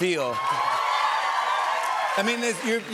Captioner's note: cheers and applause